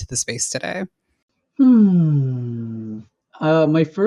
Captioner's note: light-hearted sigh